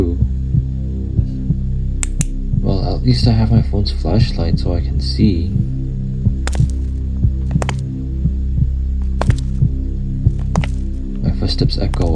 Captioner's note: click